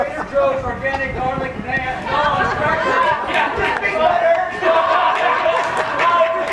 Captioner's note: lovers raucous